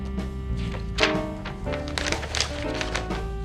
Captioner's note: pages flipping